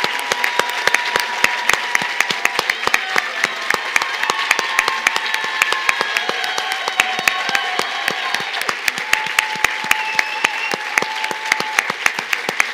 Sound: cheers and applause

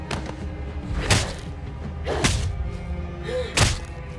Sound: smacking

